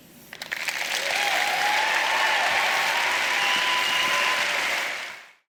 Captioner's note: applause